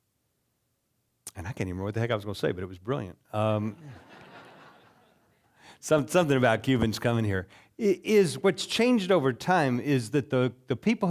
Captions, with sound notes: And I can't even remember what the heck I was going to say, but it was brilliant. (audience laughing) Something about Cubans coming here. Is what's changed over time is that the people